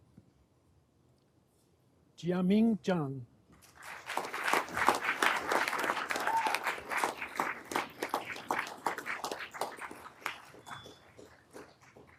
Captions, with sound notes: Jiaming Jiang. (everyone applauding)